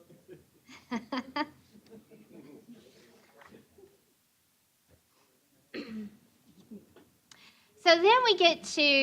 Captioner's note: laughter